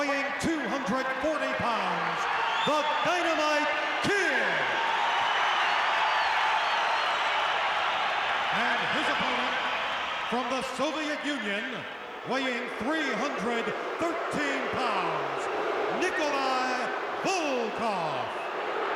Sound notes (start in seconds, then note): 3.4 crowd cheers; 15.9 crowd boos